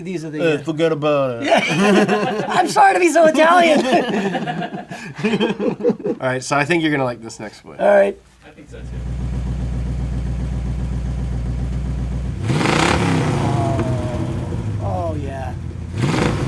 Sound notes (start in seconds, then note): 1.4 laughs; 3.7 laughter; 8.7 engine revs